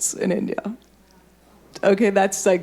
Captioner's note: audience murmuring